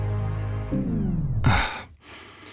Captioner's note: sigh